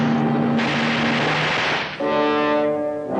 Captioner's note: gunshots ringing out; tense music continues